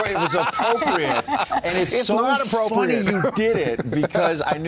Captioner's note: laughter